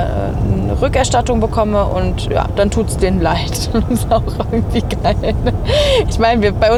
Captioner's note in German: gelächter